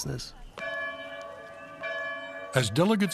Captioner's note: bell tolling